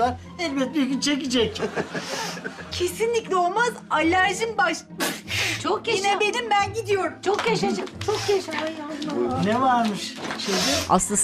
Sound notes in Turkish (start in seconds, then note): 5.0 Hapşırma sesi